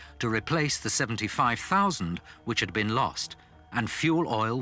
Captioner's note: none